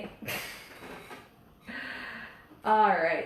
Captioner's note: chuckles